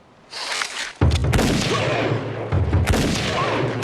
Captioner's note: gunshots